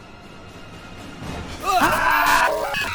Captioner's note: both gasp; screams distort